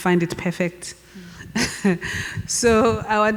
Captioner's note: laughs